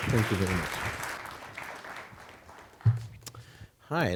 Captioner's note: applause